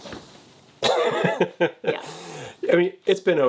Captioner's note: laughing